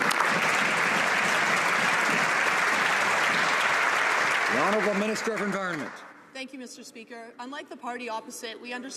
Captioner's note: some Applause